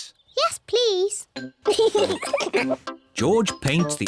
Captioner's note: both giggle